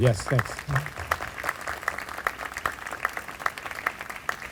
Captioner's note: group applauding